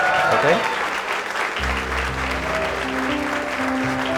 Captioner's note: applause